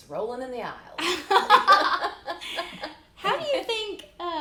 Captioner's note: laughing